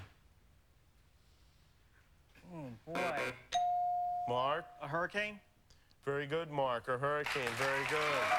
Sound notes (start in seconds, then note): 2.9 buzzer